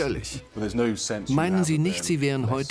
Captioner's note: voiceover